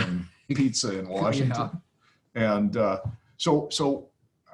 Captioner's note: laughs